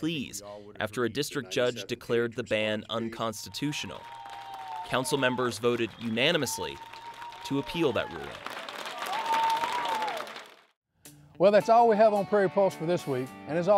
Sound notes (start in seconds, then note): 8.7 cheering and applause